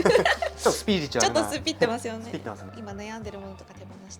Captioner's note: laughs